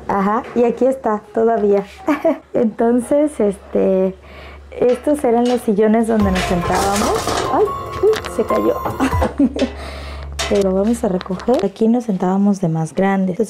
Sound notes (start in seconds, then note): 6.2 suspenseful music; 6.2 chair falls to the floor